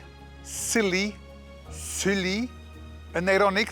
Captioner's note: french accent